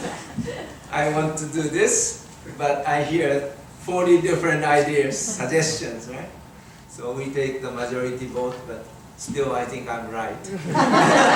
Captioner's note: audience laughing